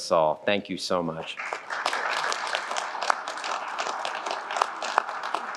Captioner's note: applause